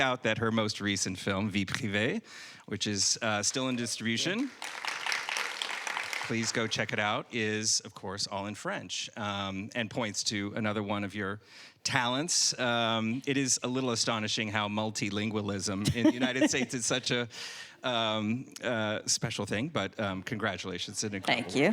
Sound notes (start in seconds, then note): 4.0 audience applauding